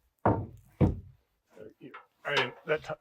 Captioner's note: planks clanking